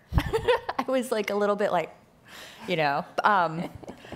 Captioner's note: laughing